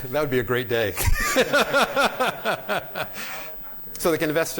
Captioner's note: laughter